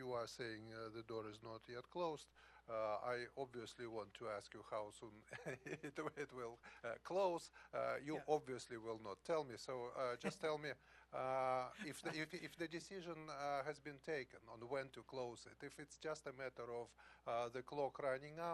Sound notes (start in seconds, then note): 11.6 laughter